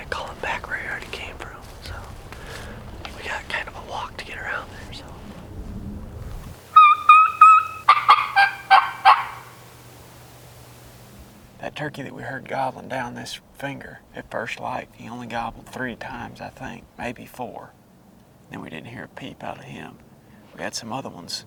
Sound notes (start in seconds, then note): 6.8 calling